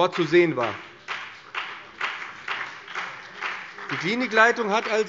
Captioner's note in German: Beifall BÜNDNIS 90/DIE GRÜNEN und vereinzelt CDU